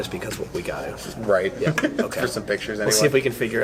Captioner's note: chuckles